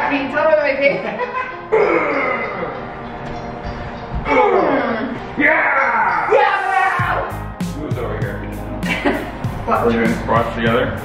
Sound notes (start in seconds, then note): 1.0 laughs; 1.7 grunts; 4.2 both grunt